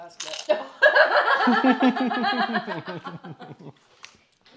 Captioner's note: all laughing